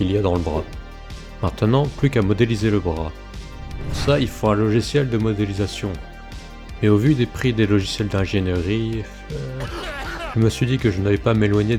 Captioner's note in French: tousse